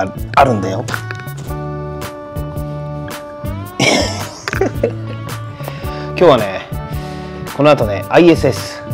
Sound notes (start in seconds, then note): 3.8 laughs